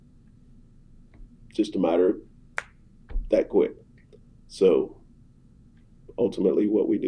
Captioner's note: snaps fingers